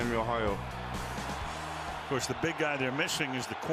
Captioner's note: cheering